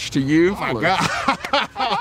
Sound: laughs

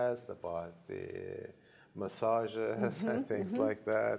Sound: chuckling

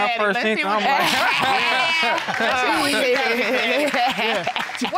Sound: all laughing

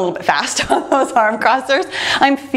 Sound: laughs

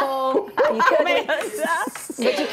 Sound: laughter

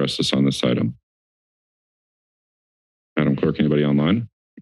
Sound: silence

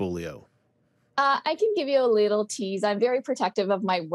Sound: on phone

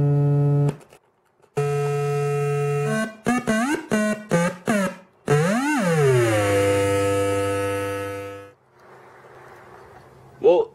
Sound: more buzzing sounds

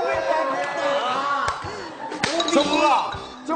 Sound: staff laughs

